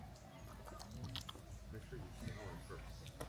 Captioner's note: patters his lips